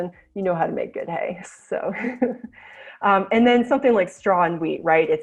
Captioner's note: chuckles